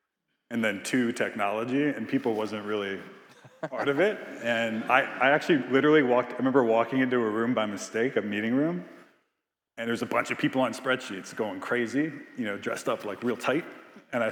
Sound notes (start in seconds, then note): 3.3 Biz laughing